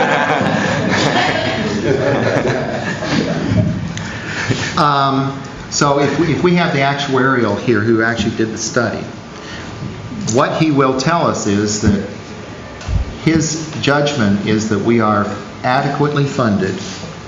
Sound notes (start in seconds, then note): 4.7 thundering; 5.7 laughter